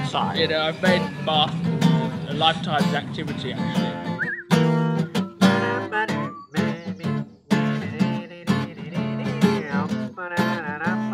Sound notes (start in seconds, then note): 5.3 humming